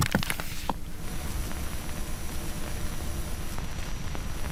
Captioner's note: static hissing